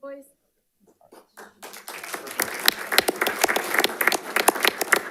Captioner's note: audience applauding